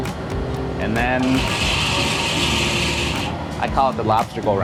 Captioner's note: lobster boil clicking